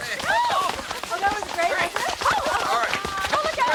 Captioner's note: all shouting